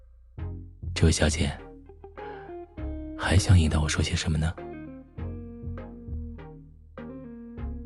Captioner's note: hoarsely